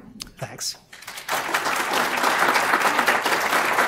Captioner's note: applause